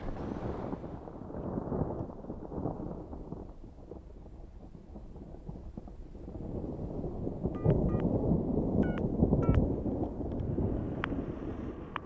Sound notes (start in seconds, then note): 0.2 thunder rumbles in distance; 7.6 phone dials